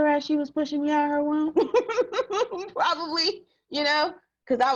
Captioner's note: laughs